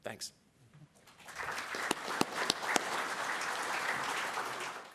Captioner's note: applause